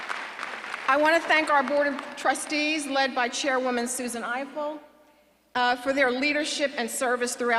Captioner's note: applause